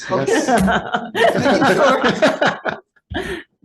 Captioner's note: people laughing